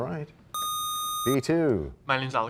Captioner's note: sound of a buzzer